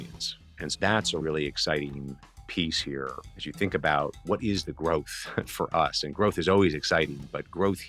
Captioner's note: laughs